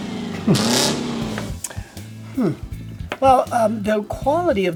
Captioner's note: chuckles